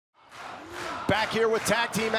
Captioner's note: crowd cheering